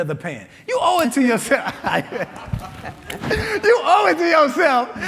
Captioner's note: laughing